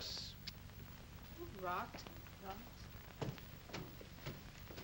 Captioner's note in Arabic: تتمتم